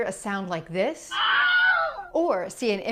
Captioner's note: painful screaming